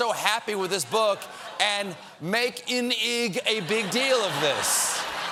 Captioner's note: laughter